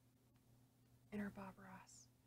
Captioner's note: quietly